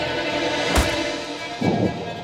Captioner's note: foot thuds; pensive music